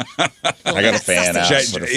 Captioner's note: laughing